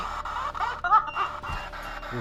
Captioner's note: spirit box voice